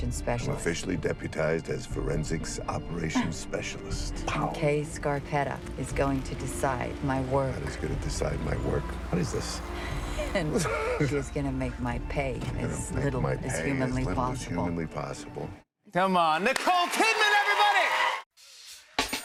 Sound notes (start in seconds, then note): 3.1 chuckles; 10.4 both chuckle; 16.3 cheers and applause